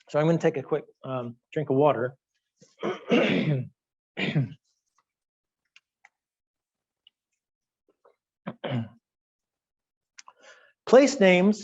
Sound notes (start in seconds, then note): 2.8 clearing throat